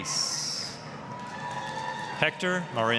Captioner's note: applause, cheering